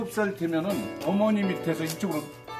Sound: man speaking Korean

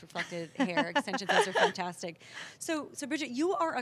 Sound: laughter

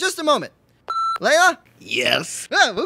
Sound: intercom beeps

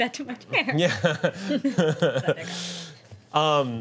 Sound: laughs

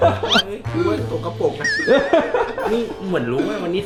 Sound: laughing

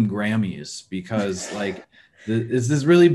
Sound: chuckles

